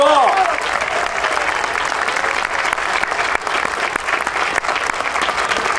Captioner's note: audience cheering and applauding